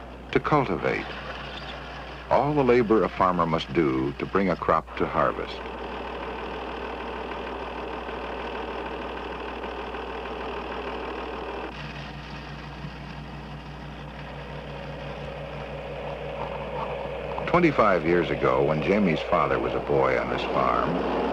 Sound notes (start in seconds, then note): 6.4 tractor whirring